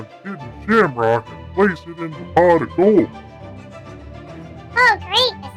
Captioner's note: voiceover, sarcastically